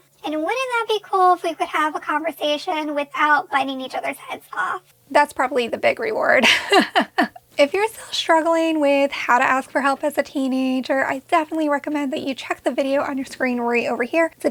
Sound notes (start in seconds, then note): 6.4 chuckles